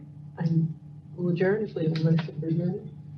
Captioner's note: speaker off microphone